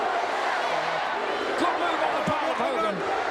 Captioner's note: crowd chants "USA"